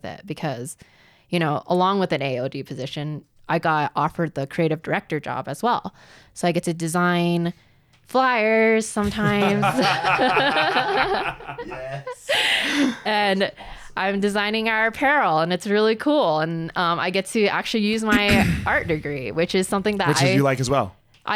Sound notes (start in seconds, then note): 9.0 both laughing